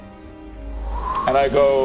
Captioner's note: light conjuring noises